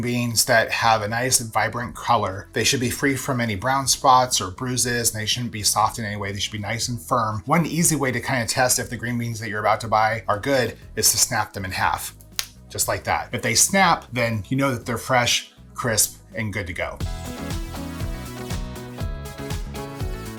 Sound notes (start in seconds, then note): 12.1 bean snaps; 15.8 upbeat music begins